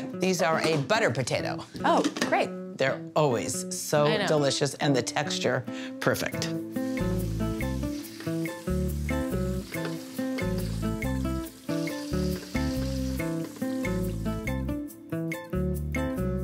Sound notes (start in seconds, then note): 6.3 chill samba music; 6.7 water running